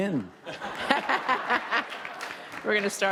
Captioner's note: laughing